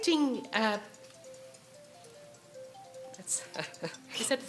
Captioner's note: alarm ringing